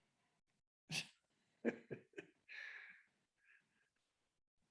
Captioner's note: laughs